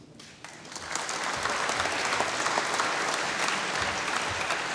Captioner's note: applause